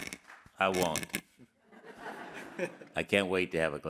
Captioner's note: all laughing